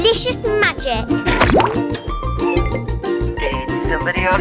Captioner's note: bubble popping